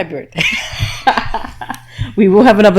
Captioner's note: laughing